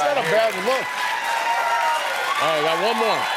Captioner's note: cheering